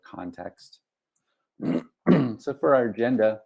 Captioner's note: clears throat